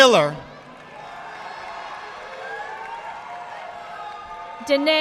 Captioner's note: audience applauding